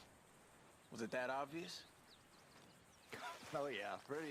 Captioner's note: laughs